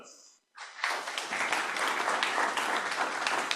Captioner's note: applause